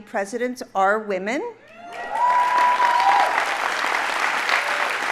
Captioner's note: audience applauding